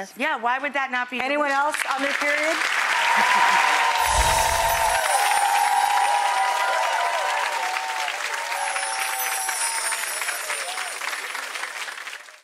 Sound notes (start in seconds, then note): 2.9 audience applause